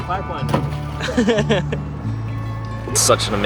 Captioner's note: laughter